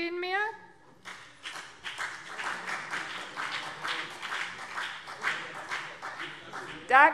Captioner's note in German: Beifall BÜNDNIS 90/DIE GRÜNEN und CDU